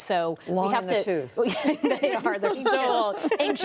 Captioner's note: laughter